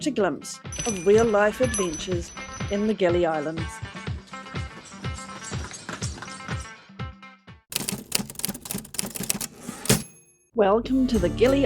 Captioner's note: typewriter clacking